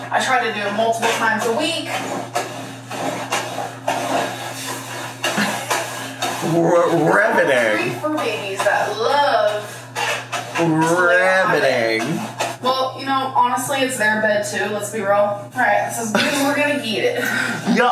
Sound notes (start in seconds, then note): 5.5 lint rolling